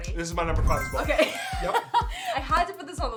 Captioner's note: laughs